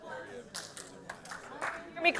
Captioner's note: scattered people clapping